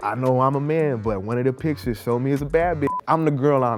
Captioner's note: beep